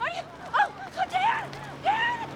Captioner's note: none